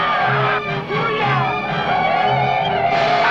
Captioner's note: warrior shouts; Yaqui shouting; gunshots blasting